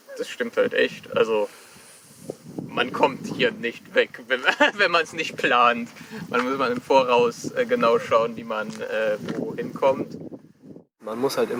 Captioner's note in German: lacht